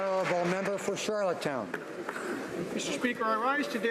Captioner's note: applause